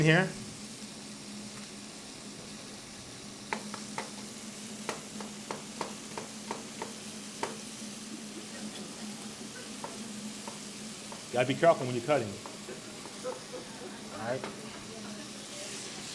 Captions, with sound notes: I got an onion here. (knife chops) (audience laughs) Gotta be careful when you're cutting. All right?